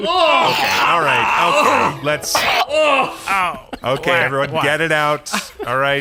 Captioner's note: vomiting sounds